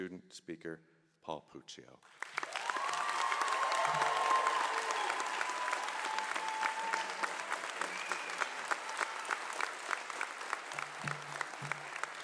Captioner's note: cheering and applause